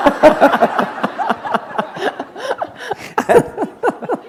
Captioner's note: laughter